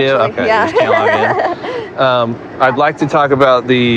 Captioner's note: nervovousus lauaughgh